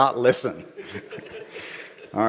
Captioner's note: laughter